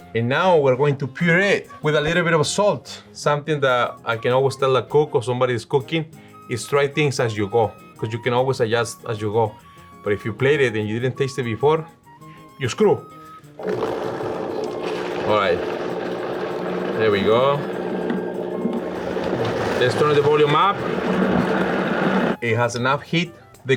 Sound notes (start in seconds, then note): 13.8 blender whizzes